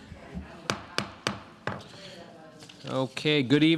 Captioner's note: gavel banging